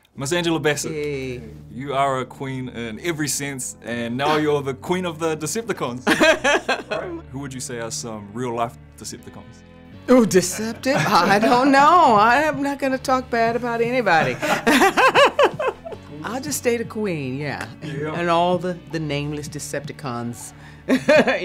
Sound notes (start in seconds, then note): 6.1 Angela laughs; 14.1 all laughing